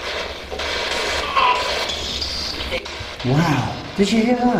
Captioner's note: static buzzing